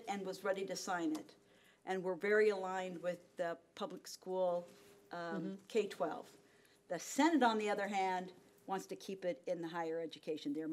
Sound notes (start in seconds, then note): none